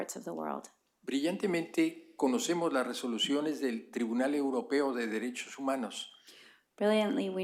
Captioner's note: speaking spanish